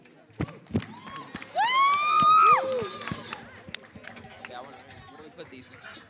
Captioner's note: cheering